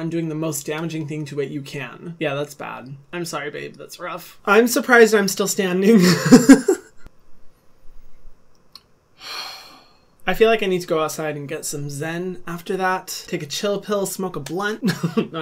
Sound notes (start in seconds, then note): 6.0 laughs; 9.2 sighs